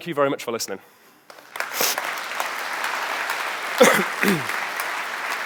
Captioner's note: audience applauding